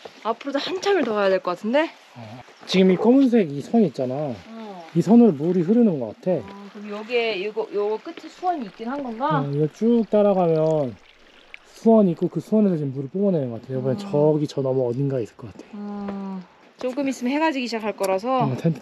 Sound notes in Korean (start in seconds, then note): 9.4 자세히 들으면 들리는 물소리